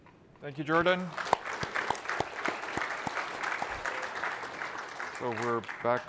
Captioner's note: applause